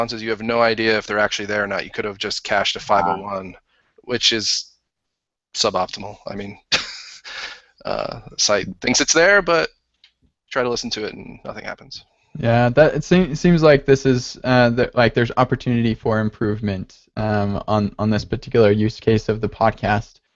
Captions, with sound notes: you have no idea if they're actually there or not. You could have just cached a 501. Which is suboptimal, I mean. (laughs) Site thinks it's there, but, try to listen to it and nothing happens. - Yeah that, it seems like this is, like, there's opportunity for improvement on this particular use case of the podcasts.